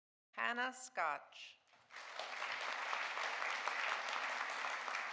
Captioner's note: audience applauding